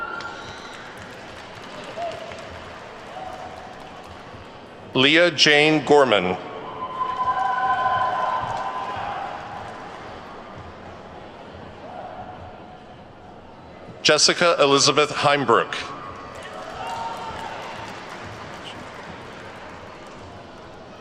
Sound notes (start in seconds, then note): 0.0 attendees clapping; 6.6 attendees whooping and clapping; 15.8 attendees clapping